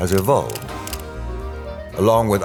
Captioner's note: camera clicking